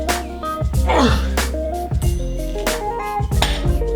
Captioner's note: grunts